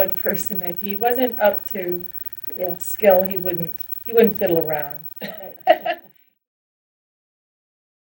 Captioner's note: laughter